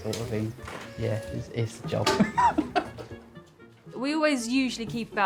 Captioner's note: laughs